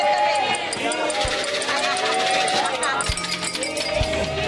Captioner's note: glasses clinking; spoons tapping